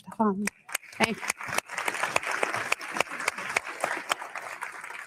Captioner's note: audience clapping